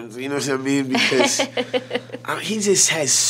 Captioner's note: laughing